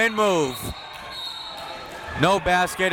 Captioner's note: whistle tweeting